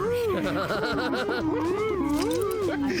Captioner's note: laughter